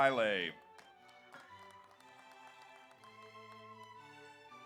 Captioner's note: audience applauds